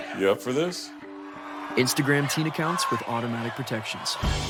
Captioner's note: crowd cheering